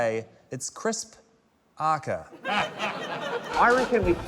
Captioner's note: laughter